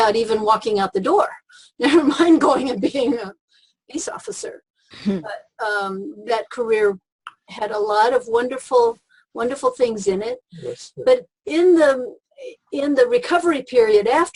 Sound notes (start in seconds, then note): 2.3 laughs